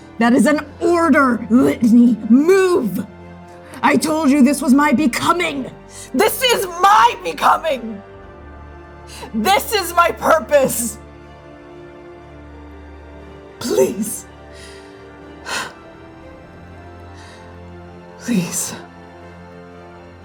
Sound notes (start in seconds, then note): 0.0 pressing forcefully, breathing shallowly; 14.5 exhaling